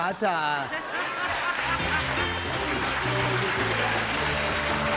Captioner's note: laughter, applause; theme music